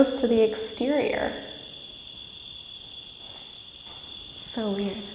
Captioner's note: crickets chirping